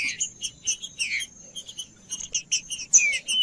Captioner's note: trinca ferro cantando